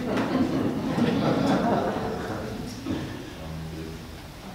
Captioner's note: people laugh